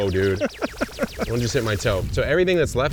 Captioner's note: chuckling